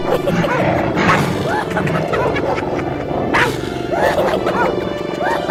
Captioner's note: hyenas laughing